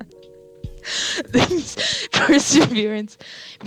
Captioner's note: mic popping